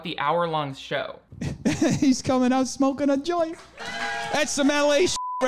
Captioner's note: laughs